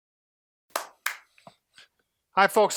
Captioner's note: claps